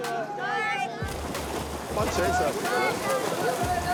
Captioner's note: cheering continues